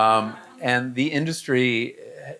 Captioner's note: audience laughing